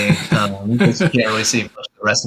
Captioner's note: laughing